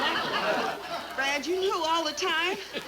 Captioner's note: audience laughs